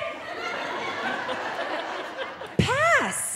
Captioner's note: audience laughing